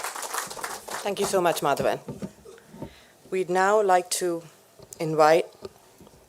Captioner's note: applause